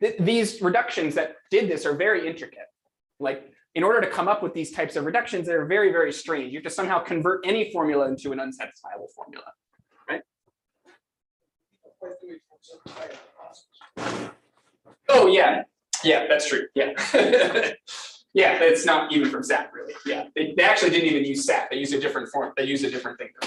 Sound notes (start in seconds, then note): 16.9 laughs